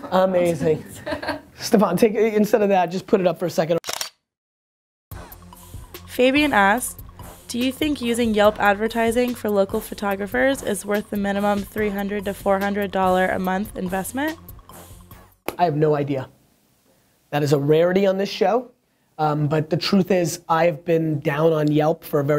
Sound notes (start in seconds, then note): 3.8 camera clicking sound; 6.3 voiceover